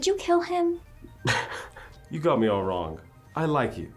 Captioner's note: scoffs